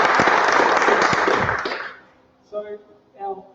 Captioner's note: applause